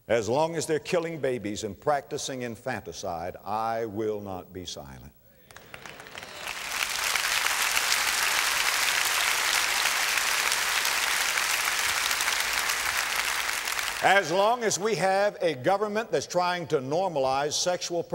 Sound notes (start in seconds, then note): 6.7 audience applause